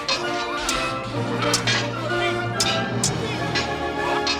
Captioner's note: swords clanging